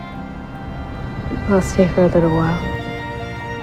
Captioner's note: voiceover